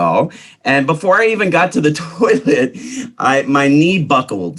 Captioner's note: giggles